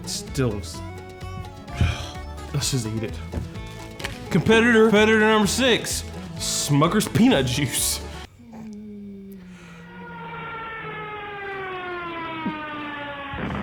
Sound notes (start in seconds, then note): 1.8 groaning; 8.8 plane whining